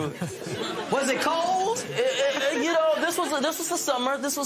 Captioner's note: laughter